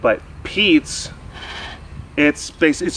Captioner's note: snuffle